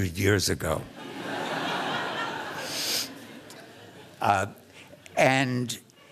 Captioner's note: laughter